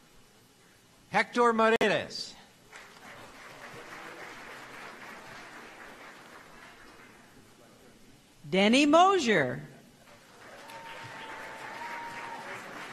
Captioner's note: applause